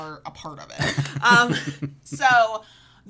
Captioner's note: laughs